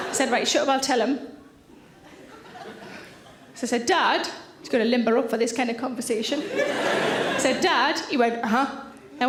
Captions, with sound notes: I said, "Right, shut up and I'll tell him." (audience titters) So I said, "Dad," he's gotta limber up for this kind of conversation. (audience laughing) I said, "Dad," he went, "Aha."